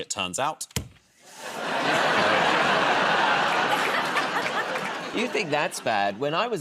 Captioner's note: laughter